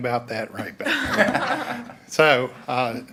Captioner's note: all laugh